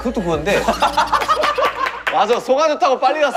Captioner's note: hahaha